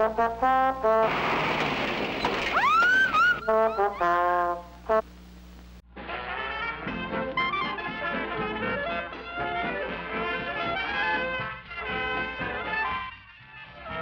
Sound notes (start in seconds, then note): 2.6 whistling; 6.0 dixieland band music